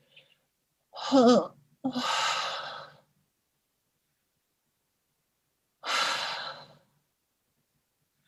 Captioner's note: shaky Breaths